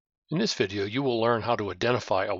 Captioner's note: voiceover